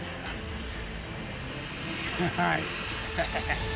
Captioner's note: chuckles